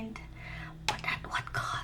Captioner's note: whispered